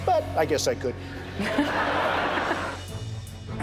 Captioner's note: laughter